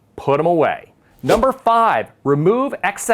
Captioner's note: text whooshes